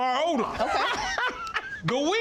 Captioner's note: laughing